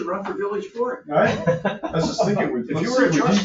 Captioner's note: laughing